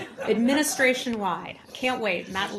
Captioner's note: laughter